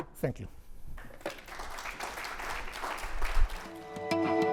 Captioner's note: applause